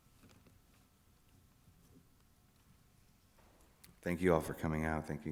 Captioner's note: none